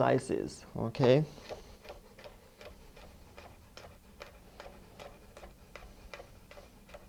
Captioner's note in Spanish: sonido cortando